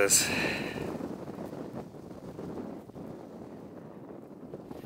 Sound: wind blowing

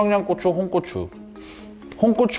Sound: may be hungry and sniff

